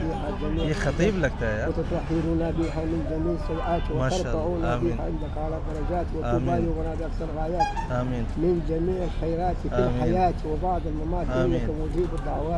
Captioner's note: Arabic